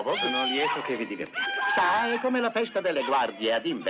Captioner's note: hollering